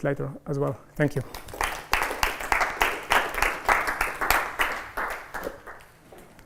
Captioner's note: applause